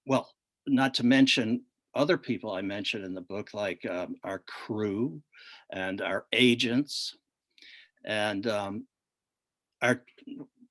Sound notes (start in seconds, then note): none